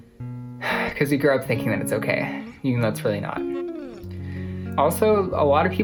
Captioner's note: sighs